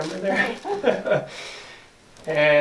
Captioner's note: laughs